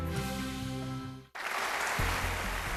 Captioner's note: applause